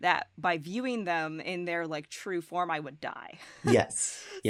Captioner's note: chuckles